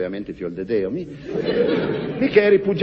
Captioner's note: laughs